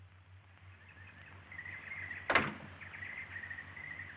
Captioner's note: birds chirping